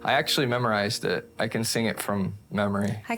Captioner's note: none